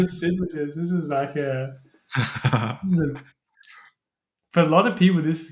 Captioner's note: laughter